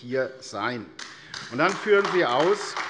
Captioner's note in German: Beifall AfD